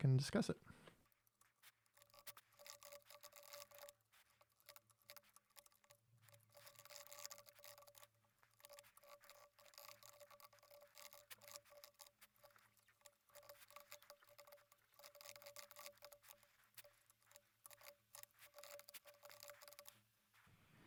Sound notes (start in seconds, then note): 1.0 typing sounds